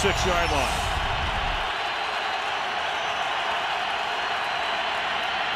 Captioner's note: cheering